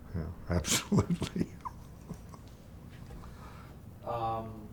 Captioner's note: chuckling